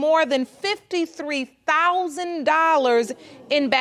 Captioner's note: audience gasping